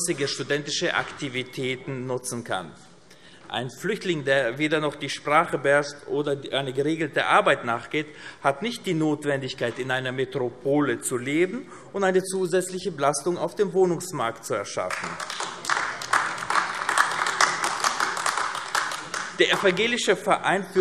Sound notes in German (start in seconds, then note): 14.8 Beifall AfD